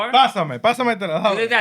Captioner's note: non-english Speech